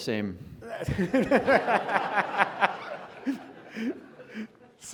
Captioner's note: audience laughing